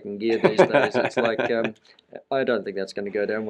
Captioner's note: laughing